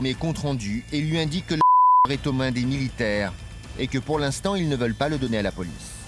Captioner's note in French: bip